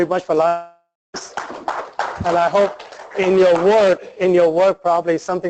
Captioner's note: applause